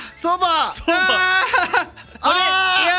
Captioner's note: giggle